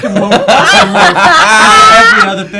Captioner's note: cackles